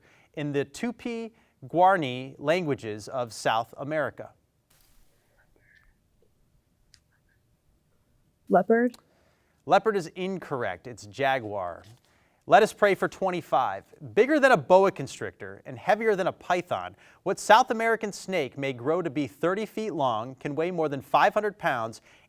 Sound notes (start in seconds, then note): 5.0 team whispers